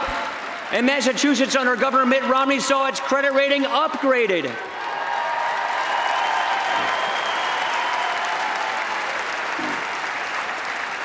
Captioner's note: applause